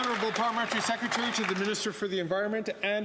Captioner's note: some Applause